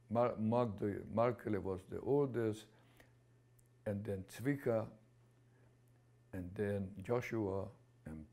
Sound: non-english

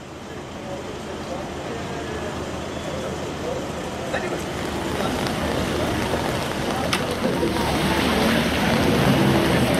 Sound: street sounds: cars going by, low murmur of voices

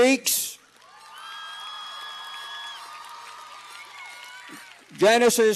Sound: cheers and applause

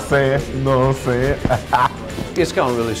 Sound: laughs

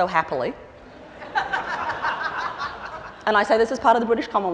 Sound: laughter

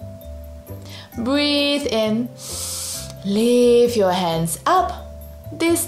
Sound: breathes in deeply

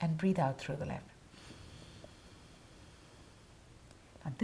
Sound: exhaling

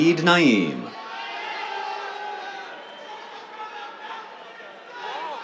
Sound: cheers

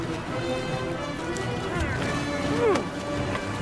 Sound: grunting

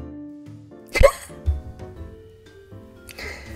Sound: laughs

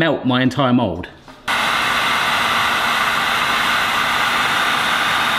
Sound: heat gun motor roaring

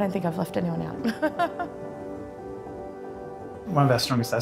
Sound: laughs

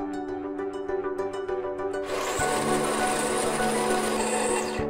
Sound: coffee Grinder

